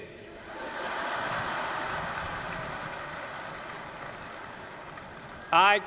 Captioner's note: laughter